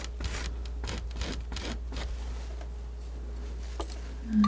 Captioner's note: scratching